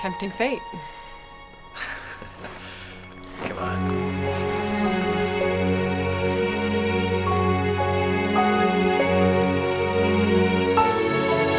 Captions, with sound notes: - Tempting fate. - (laughing) Come on. (soft music)